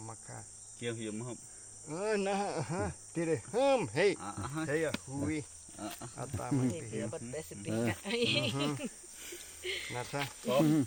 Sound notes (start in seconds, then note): 0.2 villager speaking Yanomami; 1.6 speaking Yanomami; 4.3 villager speaking Yanomami